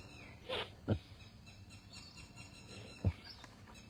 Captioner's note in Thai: เสียงสูดหายใจ